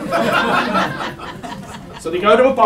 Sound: audience laughs

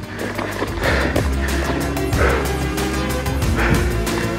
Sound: panting

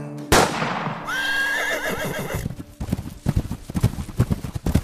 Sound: gunshots bang; horse whinnies

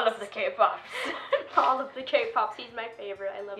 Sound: laughing

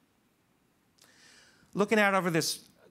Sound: none

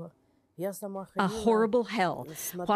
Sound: speaking Foreign Language

